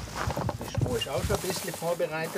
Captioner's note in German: Leise Stimmen